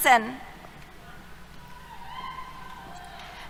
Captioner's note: cheers